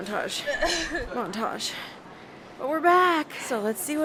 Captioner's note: crying on a mountain